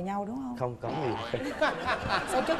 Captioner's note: laughing